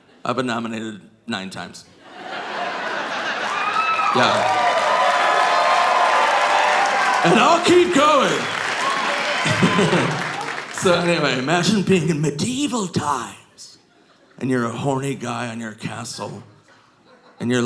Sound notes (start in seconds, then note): 2.3 audience laughing; 2.7 audience cheering; 9.7 laughing